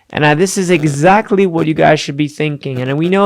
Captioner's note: none